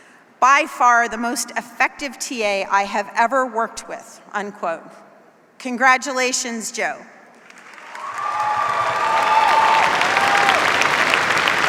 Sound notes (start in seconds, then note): 7.6 cheers, applause